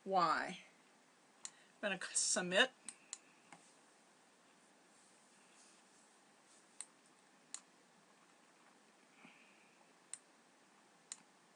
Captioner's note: computer mouse clicking sounds